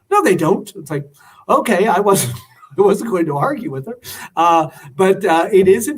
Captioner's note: laughter